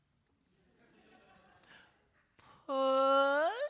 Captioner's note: group laughing